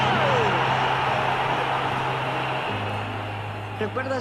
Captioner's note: crowd cheers